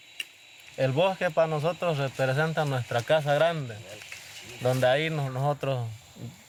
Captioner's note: speaking in foreign language